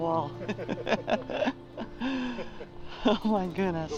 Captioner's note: laughter